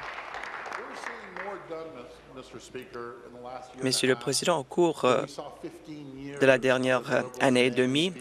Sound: applause

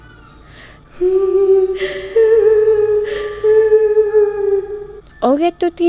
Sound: crying sound

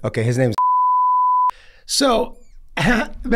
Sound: beep

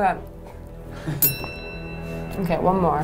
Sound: bell ringing

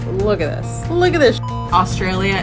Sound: beep

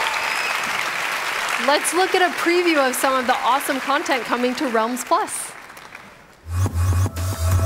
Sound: cheers and applause

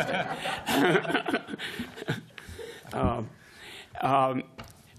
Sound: laughter

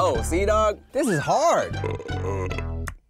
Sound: smacking lips loudly; belching loudly; orchestral music

